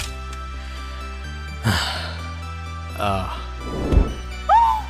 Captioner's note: inhale…exhale